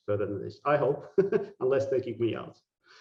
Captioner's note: laughing